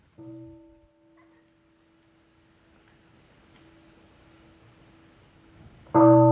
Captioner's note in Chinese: 鐘聲